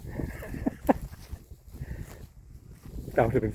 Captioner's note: laughs